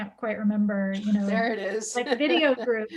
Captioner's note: laughs